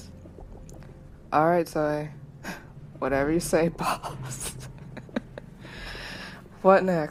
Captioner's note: laughs